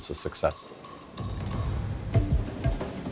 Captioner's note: sea waves flowing